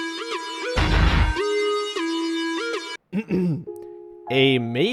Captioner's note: clears throat